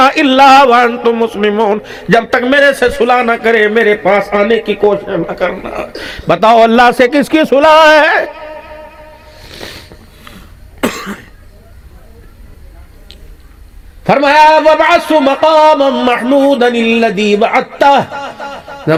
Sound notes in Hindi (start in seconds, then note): 6.0 गला साफ़ करने की आवाज़; 9.4 नाक से की जाने वाली आवाज़; 18.0 हंसी